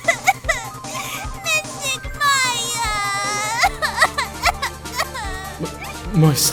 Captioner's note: sobbing